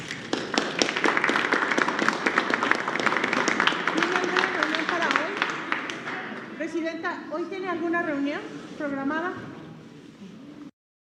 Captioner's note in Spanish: aplausos